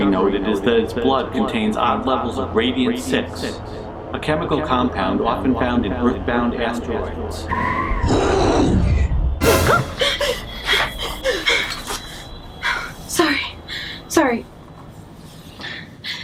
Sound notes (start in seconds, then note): 7.4 growling; 7.5 eerie squealing; 9.4 dramatic music; 9.6 gasping